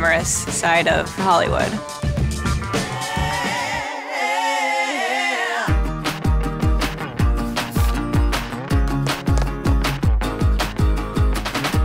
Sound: hairspray sprays

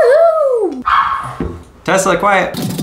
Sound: dog barking

